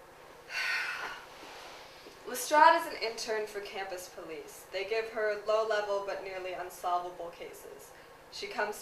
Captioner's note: sighs